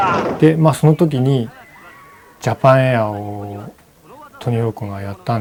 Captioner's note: speaking in foreign language